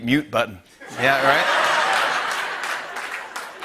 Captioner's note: laughter and applause